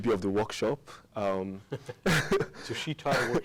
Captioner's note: both laugh